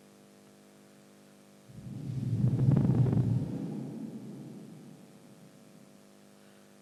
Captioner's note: shree mataji blows into the microphone